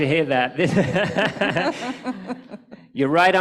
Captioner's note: laughter